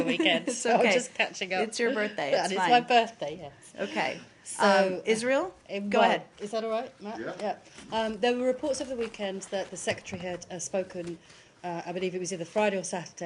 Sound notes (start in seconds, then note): 0.0 laughter